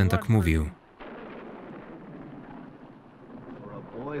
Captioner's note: thunder roaring